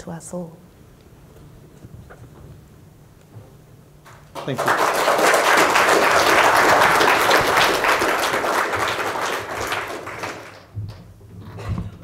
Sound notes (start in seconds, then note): 4.9 applause